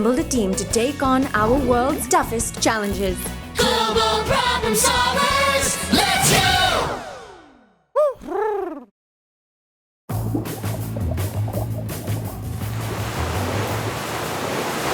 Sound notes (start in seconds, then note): 8.0 Huti hoots; 9.7 waves crash; 10.1 light rock music